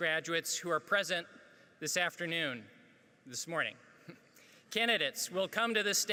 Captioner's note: chuckles